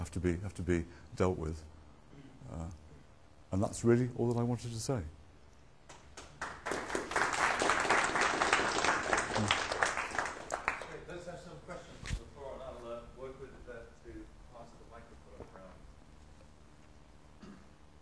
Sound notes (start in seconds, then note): 5.9 applause